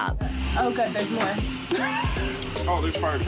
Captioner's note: laughs